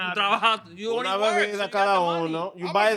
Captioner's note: speaking In Foreign Language